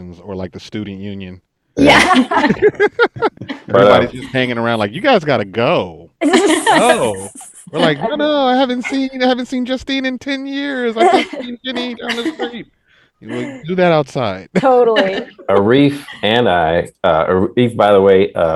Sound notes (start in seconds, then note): 1.8 all laughing